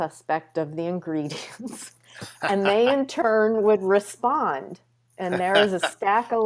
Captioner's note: chuckles